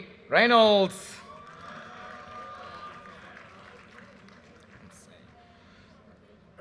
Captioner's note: audience cheers and applause